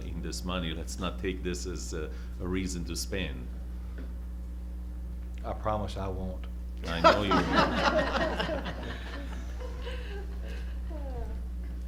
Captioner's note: laughter